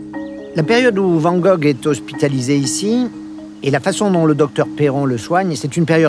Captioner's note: speaking in foreign language